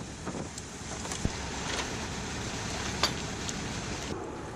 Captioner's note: motoring sounds